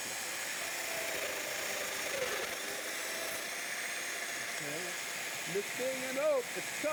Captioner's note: domino cutter cutting